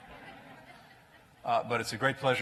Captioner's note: laughter